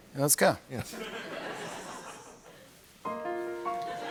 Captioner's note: laughter